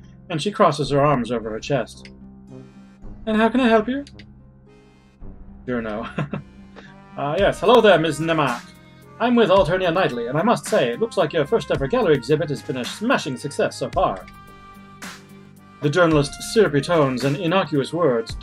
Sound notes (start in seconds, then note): 5.9 chuckles